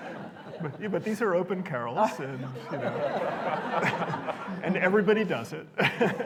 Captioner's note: laughter; laughter